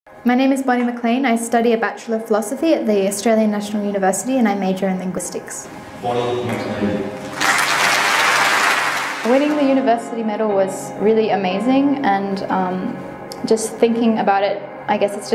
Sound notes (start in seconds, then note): 7.2 applause